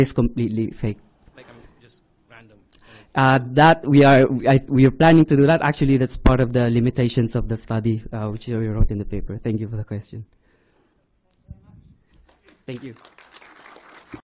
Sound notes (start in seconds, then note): 12.2 applause